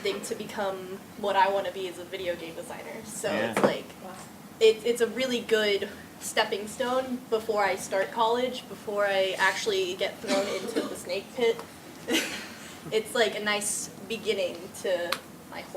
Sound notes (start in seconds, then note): 10.2 laughs